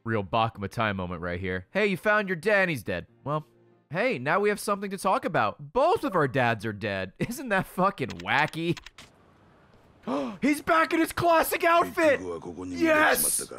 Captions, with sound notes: Real Baka Mitati moment right here. Hey, you found your dad, and he's dead. Well. Hey, now we have something to talk about. Both of our dads are dead, isn't that fricking wacky? (gasps) He's back in his classic outfit! Yes!